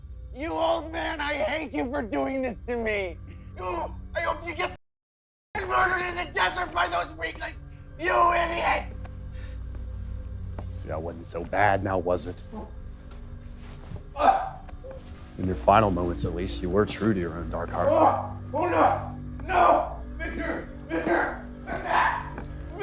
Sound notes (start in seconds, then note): 14.1 Niall grunting